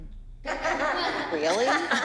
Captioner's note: ominous music; laughter